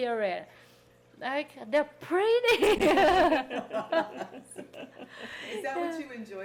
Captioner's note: people laughing